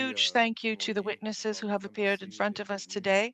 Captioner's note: speaking in French